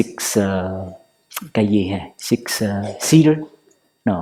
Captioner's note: Vietnamese